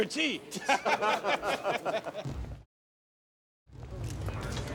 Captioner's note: people laughing